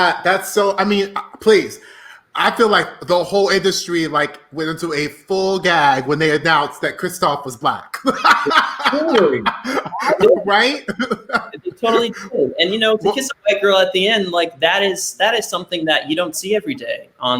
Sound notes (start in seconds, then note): 8.0 laughing; 9.3 voice muffled